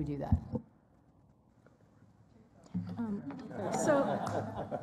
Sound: laughter

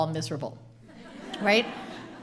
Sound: audience laughing

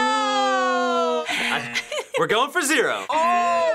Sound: laughs

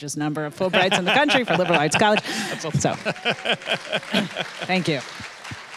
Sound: audience applauding

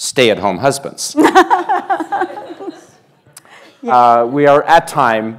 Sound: laughter

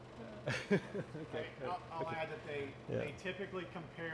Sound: laughs

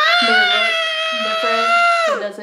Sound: vocalizes

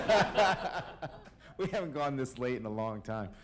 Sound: laughter

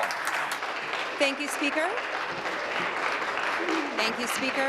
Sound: applause

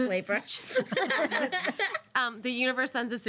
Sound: girls laughing

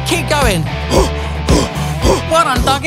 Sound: breathing heavily

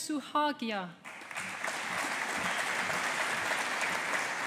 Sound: audience applauding

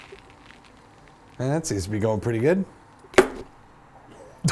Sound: dull metal hit; laughs

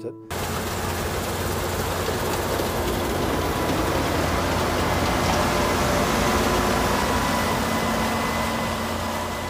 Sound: whirring motor of Harvester

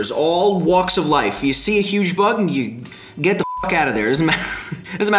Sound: beep

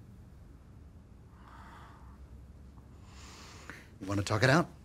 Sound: sighing

